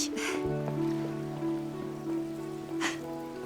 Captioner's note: chuckling